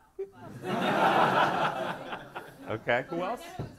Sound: audience laughs

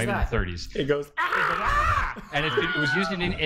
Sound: Anguished Wilhelm Scream

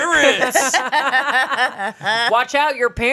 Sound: everyone laughs

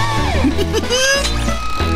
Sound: snickering

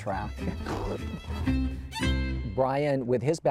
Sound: laughs

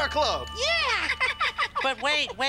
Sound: laughs

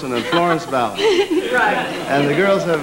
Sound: laughter

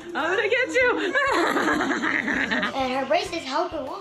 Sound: laughs

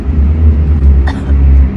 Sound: cough

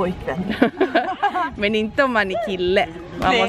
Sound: laughter

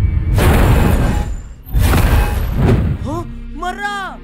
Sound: loud heartbeats; menacing footsteps

